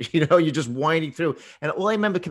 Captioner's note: laughs